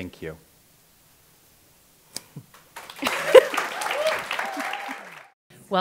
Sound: applause and cheering with some laughter

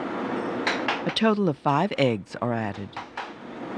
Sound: voiceover

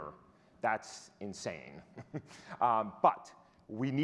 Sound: chuckles

